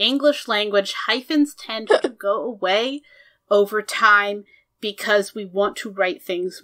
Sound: laughs

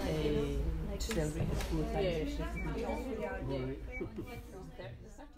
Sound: sound of people in food bank

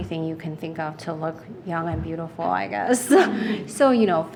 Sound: laughing

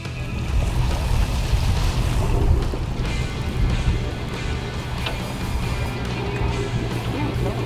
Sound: lively music playing; water splashing

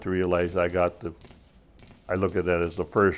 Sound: gunfire

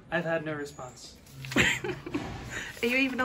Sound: laughing

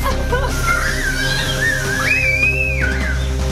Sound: screaming

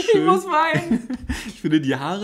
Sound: laughs

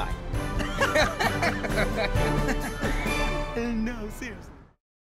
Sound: laughter

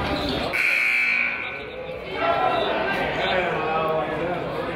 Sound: buzzer honks

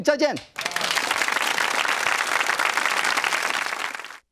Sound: audience claps

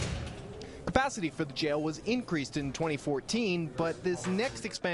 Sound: door closes

